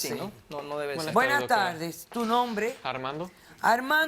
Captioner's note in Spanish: Hablan al unísono